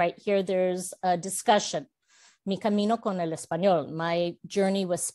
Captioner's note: Spanish